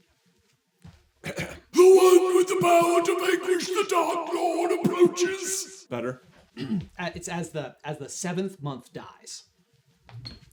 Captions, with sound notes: [clears throat] [Trelawney voice] "The one with the power to vanquish the Dark Lord approaches." Better? It's "As the seventh month dies."